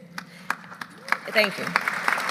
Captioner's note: applause